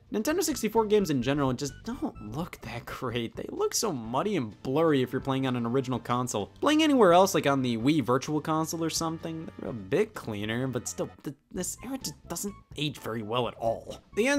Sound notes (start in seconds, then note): none